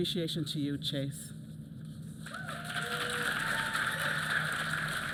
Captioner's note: applause